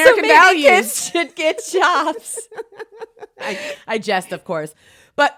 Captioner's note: laughs